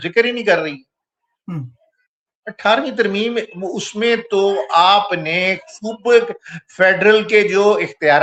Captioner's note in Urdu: گلا صاف کرتا ہے